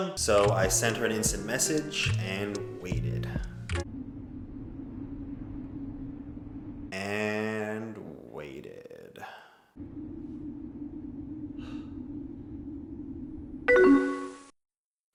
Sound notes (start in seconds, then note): 11.5 young breathing